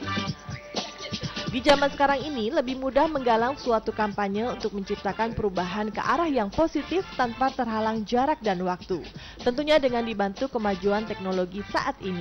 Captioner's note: non-english speech